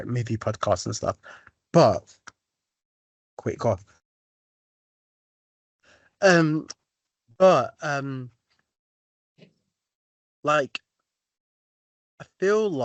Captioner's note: mutes and unmutes mic